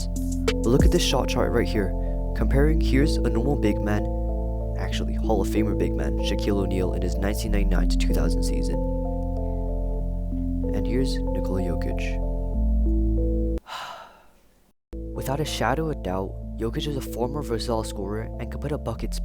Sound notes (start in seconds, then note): 13.6 sigh